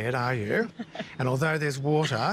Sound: chuckles

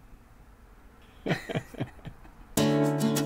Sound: laughs

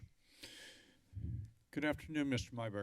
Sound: inhales deeply

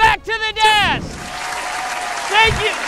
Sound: applause

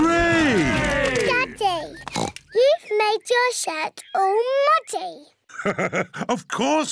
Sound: oinks; laughs

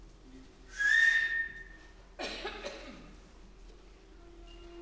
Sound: loud whistle

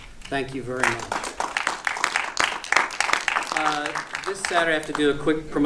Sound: audience applauding

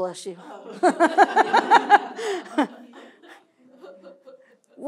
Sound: laughter

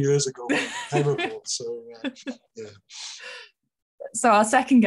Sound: laughing

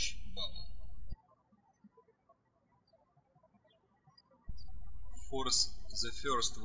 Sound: birds chirping

